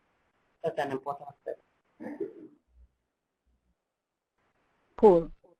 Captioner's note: electronic interference